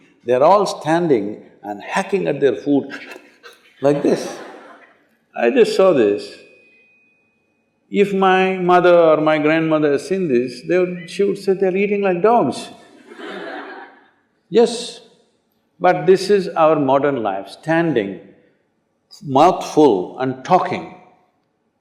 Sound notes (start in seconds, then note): 12.9 laughter